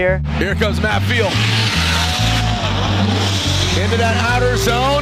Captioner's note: engine revving